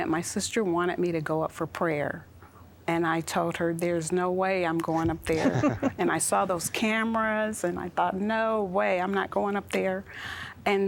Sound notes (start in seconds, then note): 5.2 laughter